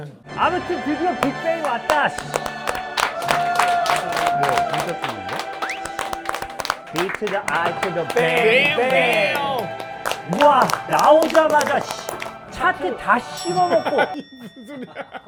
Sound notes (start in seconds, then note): 2.4 applause